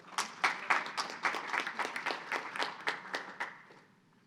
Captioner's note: audience applauds